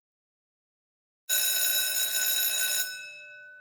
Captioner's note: school bell ringing